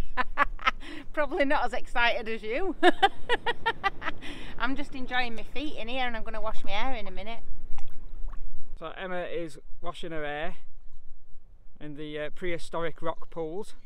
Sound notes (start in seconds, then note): 2.8 laughing